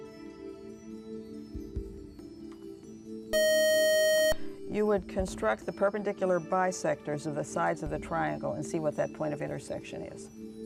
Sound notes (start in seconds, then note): 3.3 buzzer